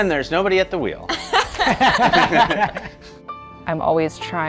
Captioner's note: all laughing